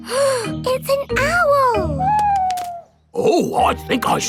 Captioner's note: gasps